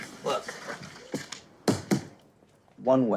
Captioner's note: tapping